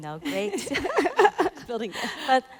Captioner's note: all laughing